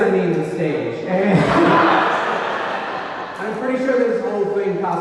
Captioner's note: audience laughing